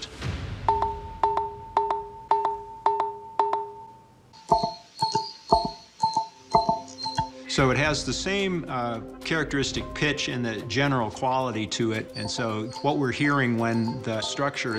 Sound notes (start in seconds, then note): 0.6 notes ringing; 4.3 pillars ringing